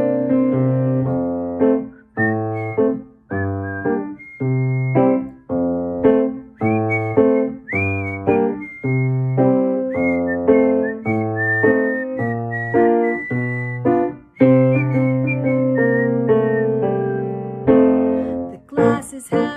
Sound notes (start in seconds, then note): 6.1 whistling